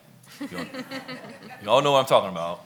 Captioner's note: laughs